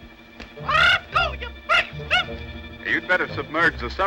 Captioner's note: screeches